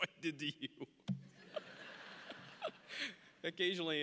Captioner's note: audience laughing; laughing